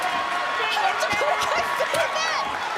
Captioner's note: crowd cheering